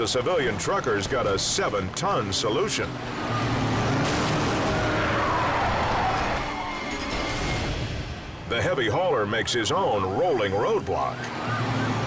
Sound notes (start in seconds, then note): 0.2 car engine revving; 4.7 car screeching